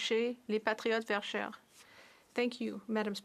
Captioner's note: speaking French